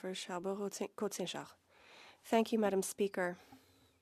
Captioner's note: speaking French